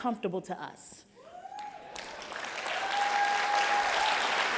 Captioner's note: applause